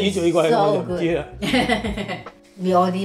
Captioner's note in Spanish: Risas